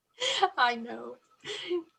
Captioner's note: laughing